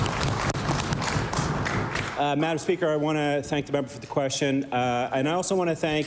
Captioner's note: applause